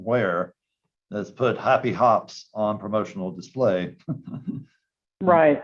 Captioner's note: laughs